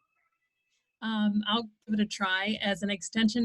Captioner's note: woman's Voice